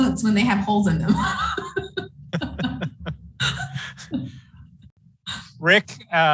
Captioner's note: chuckles